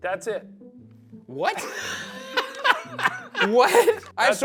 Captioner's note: laughs